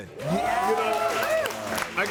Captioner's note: audience cheering and applauding